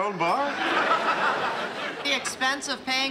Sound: laughing

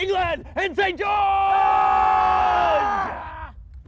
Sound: roaring cry

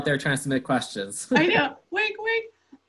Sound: laughs

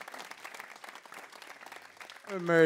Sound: applause

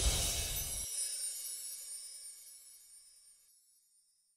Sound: swoosh and tinkling music

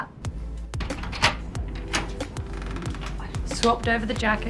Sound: door opening

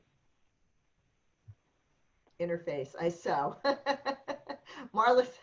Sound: laughter

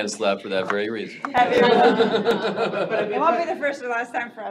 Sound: audience chattering, laughing

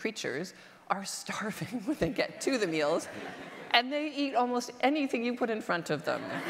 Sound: audience laughter

